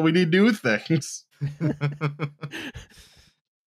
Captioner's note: light laughter